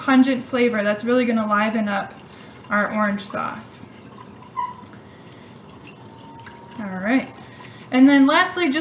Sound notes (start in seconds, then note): 4.2 stirring Sound